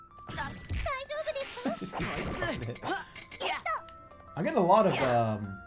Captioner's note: giggling